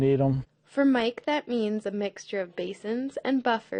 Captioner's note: voiceover